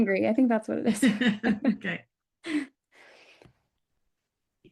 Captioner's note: laughter